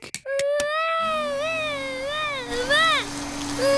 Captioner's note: vacuum cleaner whirring